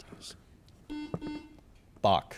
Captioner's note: buzzer chimes